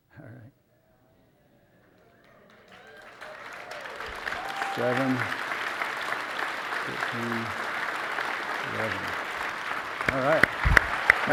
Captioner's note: applause